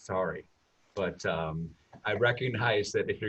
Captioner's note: chuckles